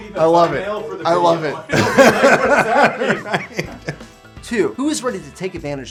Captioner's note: laughter